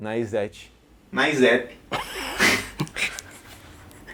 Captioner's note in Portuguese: risos